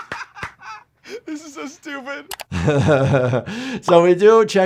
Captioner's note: all laughing; chuckles